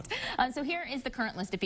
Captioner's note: chuckling